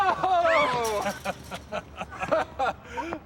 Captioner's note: laughter